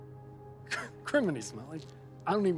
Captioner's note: laughs